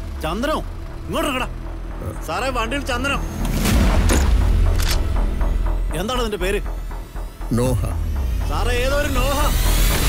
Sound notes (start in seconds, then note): 4.1 drawyer Open Sound